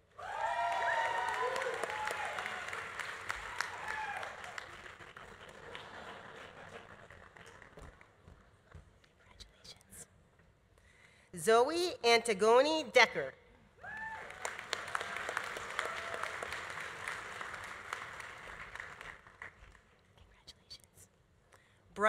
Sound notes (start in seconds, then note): 0.1 audience cheering; 0.1 audience applauding; 5.6 audience laughing; 13.8 audience cheering; 13.9 audience applauding